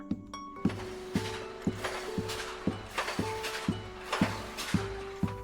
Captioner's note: construction tools banging